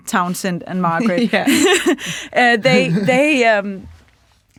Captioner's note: laughing